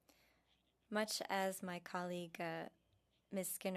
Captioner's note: speaking French